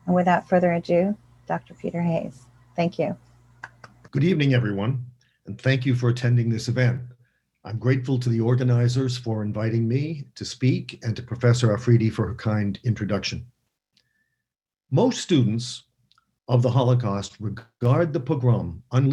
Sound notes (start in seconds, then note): 3.6 clapping